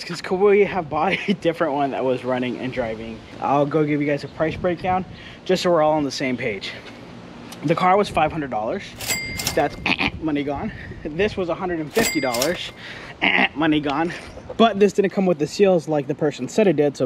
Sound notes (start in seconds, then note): 8.9 cash register dinging; 9.5 imitating buzzer; 11.9 cash register dinging; 12.8 imitating buzzer